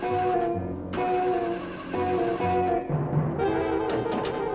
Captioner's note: engine spluttering